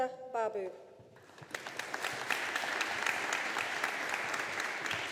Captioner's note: audience applauding